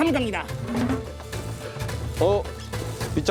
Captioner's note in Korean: 뒤적뒤적